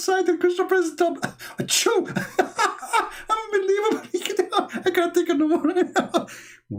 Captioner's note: Ketawa